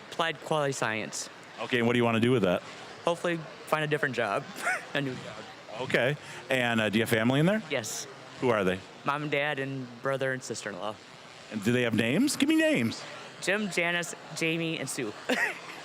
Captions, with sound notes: >> Applied Quality Science. >> Okay, and what do you want to do with that? >> Hopefully find a different job. (laughing) A new job. >> Okay, and do you have family in there? >> Yes. >> Who are they? >> Mom and Dad, and brother and sister-in-law. >> And do they have names? Give me names! >> Jim, Janice, Jamie, and Sue.